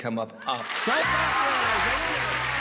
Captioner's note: bell dinging, applause